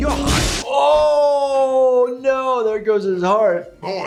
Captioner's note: heart exploding